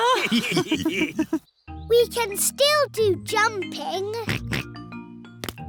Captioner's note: all laughing; oinks